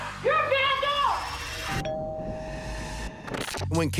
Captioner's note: doorbell rings